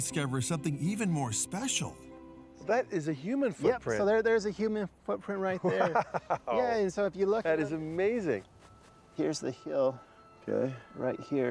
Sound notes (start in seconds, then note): 5.9 laughing